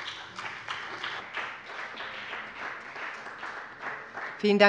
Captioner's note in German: Beifall bei dem BÜNDNIS 90/DIE GRÜNEN und der CDU